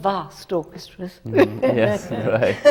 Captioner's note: laughs